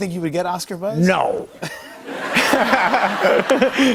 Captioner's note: laughter